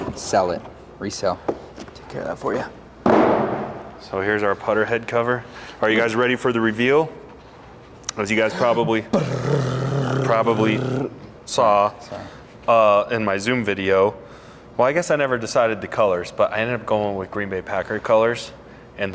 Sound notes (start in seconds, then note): 3.1 box thuds; 9.4 rasping